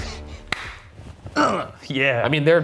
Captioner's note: claps and grunts